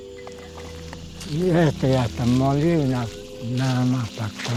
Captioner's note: speaking Spanish